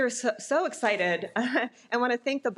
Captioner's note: chuckles